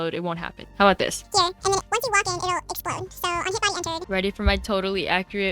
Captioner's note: sped up chatter